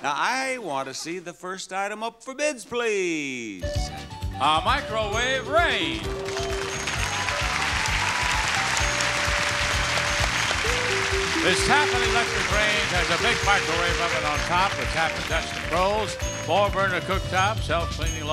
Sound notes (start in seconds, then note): 5.8 applause